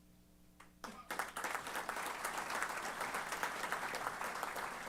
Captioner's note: applause